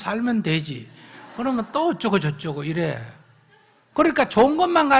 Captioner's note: audience Laughter